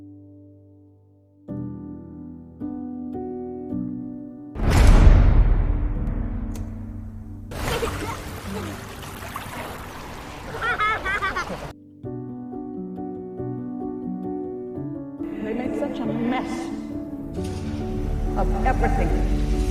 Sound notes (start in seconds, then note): 4.5 metal door closing; 7.6 Water splashing and Hannah laughing; 15.8 voiceover; 18.5 voiceover